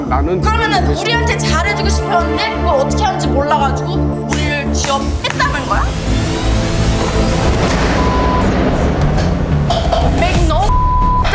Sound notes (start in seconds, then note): 0.2 speaking Korean; 4.2 claps hands; 7.6 loud crash; 10.6 beep